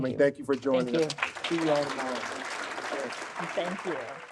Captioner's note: audience applauds